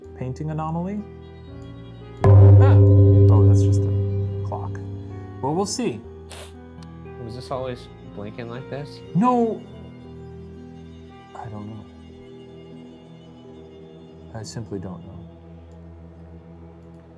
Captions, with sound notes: - Painting anomaly. (gong chimes) That's just the clock. Well, we'll see. - Was this always blinking like this? - No. I don't know. - I simply don't know.